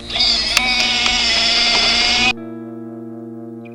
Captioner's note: wheelchair squeals